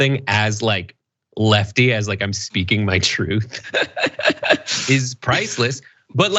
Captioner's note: laugh